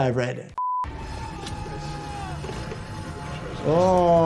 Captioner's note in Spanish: pitido monótono